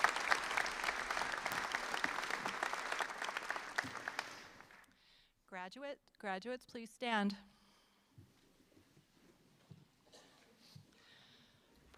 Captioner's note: applause